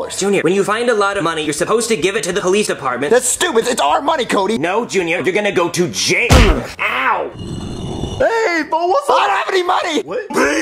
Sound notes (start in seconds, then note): 6.3 whack; 7.3 stone grinding